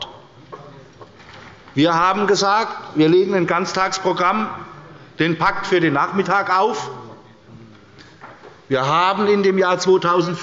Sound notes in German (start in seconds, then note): none